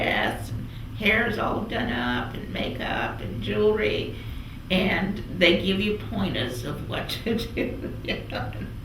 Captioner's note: laughs